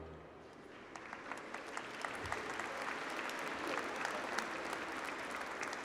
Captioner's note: audience applauding